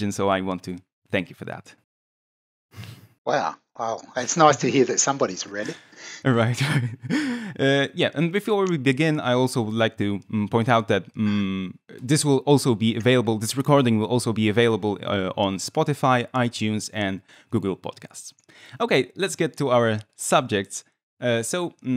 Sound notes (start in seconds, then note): 6.6 laughs